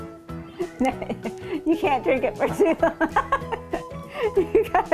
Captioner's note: laughing